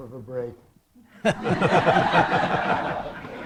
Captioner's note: laughter